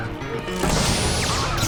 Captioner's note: electrical zaps